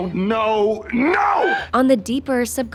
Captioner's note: shouting